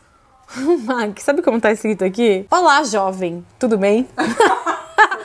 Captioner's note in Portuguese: risos